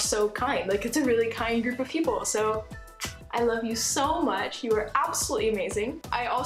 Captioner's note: kiss